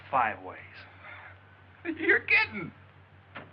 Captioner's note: chuckles